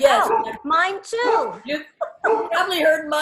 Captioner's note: laughs